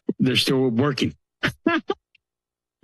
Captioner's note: laughs